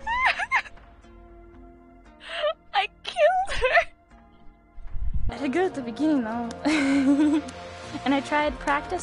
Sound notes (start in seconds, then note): 0.0 laughing; 6.6 laughs